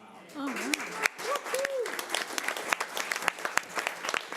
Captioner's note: audience applause